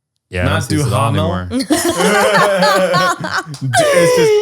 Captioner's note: laughing